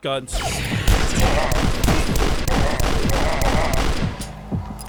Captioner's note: rapid fire shotgun blasts; Fast Fire Totem heartbeat